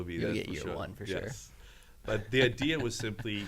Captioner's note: laughs